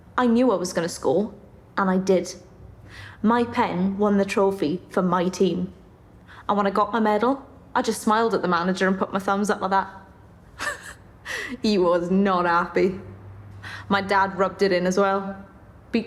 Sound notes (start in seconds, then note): 10.5 she chuckles